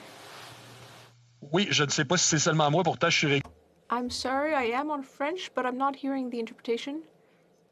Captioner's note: speaking French